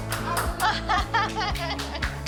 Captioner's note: laughs